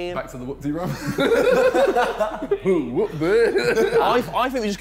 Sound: laughing

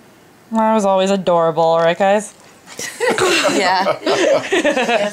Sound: laughs

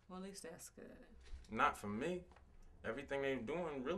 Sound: none

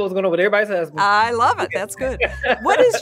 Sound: laughs

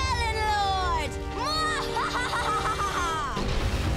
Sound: laughing

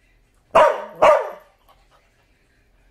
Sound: barking

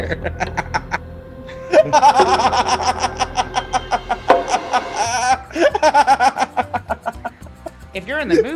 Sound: laugh

